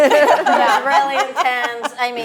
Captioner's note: laughing